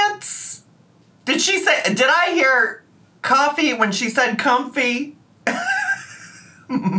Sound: laughs

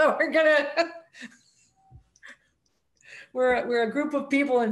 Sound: laughs

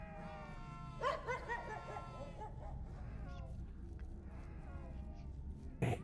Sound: cawing

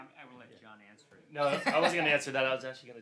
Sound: laughs

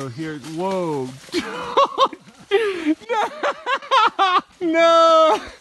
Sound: laughs

